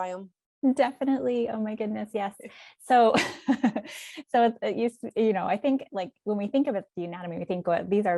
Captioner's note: chuckle